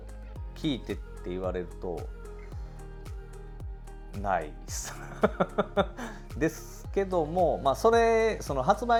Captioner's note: laughs